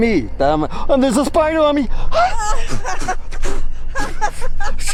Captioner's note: ladies laughing